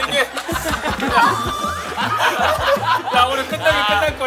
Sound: everyone rolling with laughter at the melodramatic scene

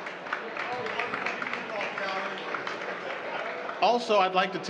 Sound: applause

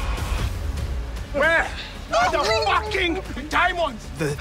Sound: screaming

